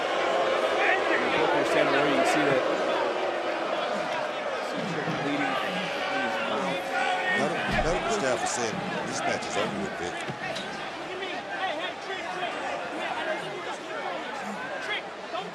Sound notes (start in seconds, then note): 0.2 yelling; 2.6 crowd boos